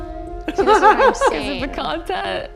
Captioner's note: laughing